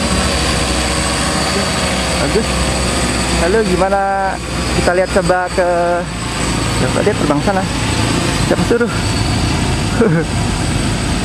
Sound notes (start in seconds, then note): 9.8 chuckle